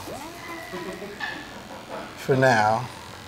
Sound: filming crew laughing

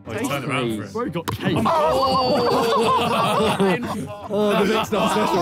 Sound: players exclaim

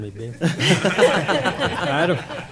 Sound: laughter

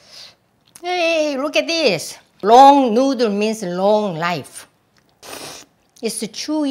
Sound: slurps

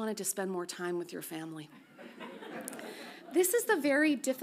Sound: audience laughs softly

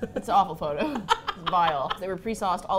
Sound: both laugh

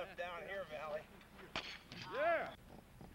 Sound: crashing sound

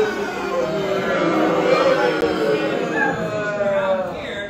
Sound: audience boooos too

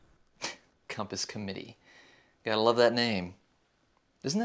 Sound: scoffs

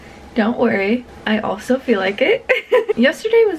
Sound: laughs

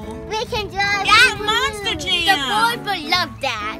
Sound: voiceover

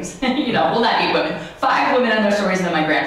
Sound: laughs

